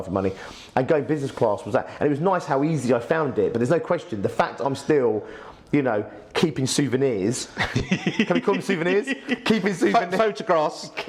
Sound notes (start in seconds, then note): 7.5 laughs